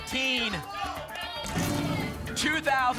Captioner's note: cheering